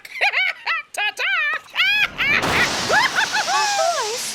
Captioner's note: laughs